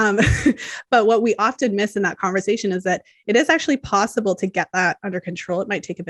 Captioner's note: chuckles